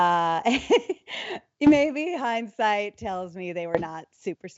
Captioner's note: laughs